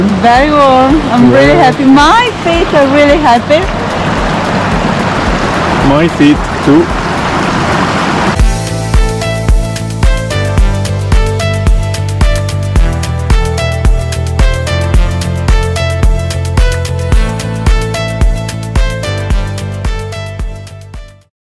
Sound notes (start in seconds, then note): 3.7 water flowing; 7.2 water flowing; 8.5 chill instrumental music